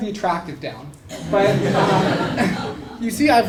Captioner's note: laugh